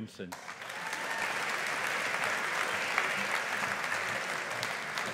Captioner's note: audience applauding